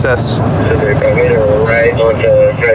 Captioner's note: on radidio